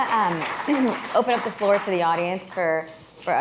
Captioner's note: applause